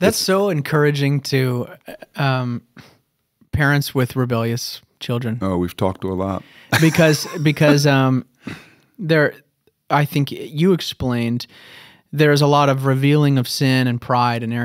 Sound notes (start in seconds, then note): 6.6 chuckle